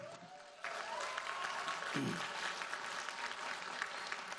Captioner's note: audience applauds